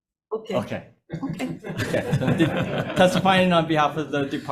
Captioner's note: Committee laughing